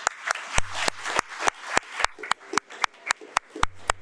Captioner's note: audience applauding